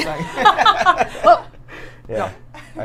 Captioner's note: Saf laughs